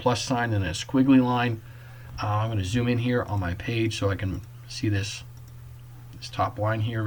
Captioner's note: click